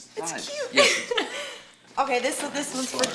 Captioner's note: laughs